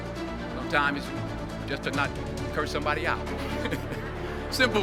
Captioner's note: audience chuckle